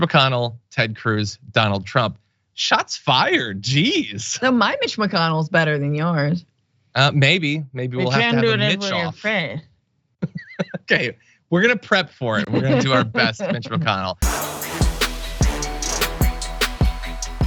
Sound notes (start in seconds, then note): 12.3 laugh